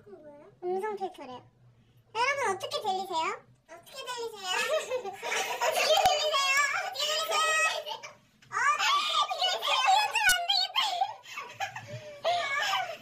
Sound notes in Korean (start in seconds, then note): 4.6 흐흫흫ㅎ; 7.4 시끌시끌